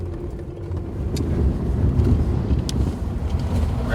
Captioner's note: road noise